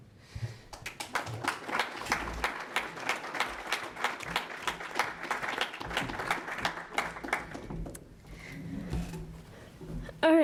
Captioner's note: applause